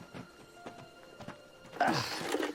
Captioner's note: Ricky grunts